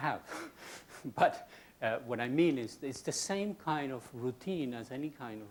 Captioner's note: laughs